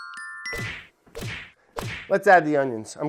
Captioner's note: punch sounds